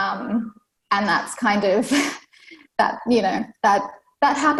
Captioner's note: laughs